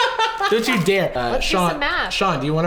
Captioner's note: laughing